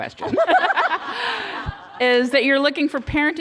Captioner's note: laughter